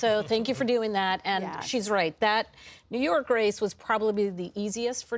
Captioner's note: laughter